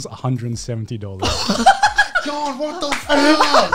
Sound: laughing

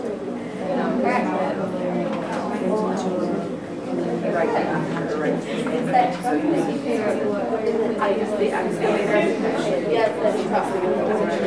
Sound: chatter

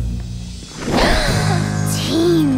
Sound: gasps

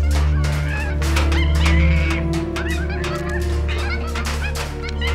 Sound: cages clanking; monkey screeching

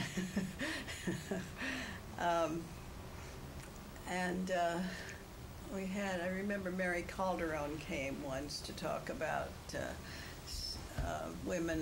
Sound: laughs

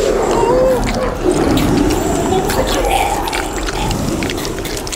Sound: crunching noises

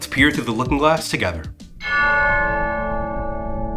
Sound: chime

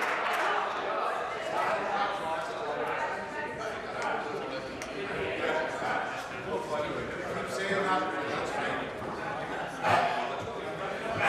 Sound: applause

